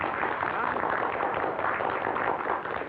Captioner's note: applause